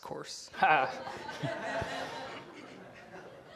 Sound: laughter

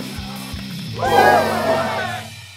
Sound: crowd cheers

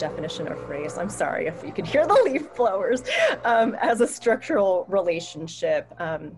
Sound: laughter

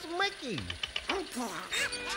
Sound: band stand tapping

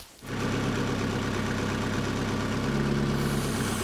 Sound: engine

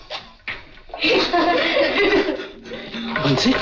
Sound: laughs

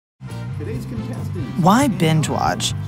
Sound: tv background noise

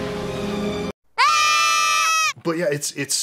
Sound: screams of terror

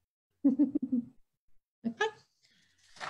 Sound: chuckles

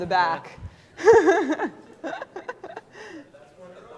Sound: laughter

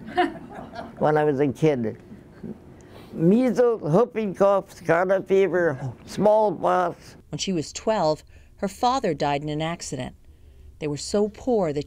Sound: laughs

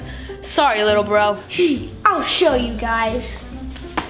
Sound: huffs

